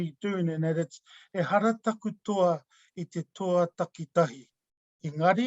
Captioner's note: speaking in foreign language